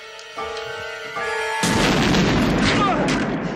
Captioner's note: explosion